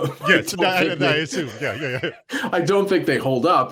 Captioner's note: laughs